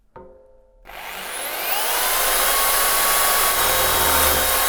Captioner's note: drill buzzing